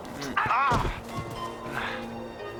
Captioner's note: groaning; smack